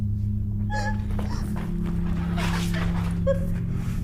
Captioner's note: Gabriella sobs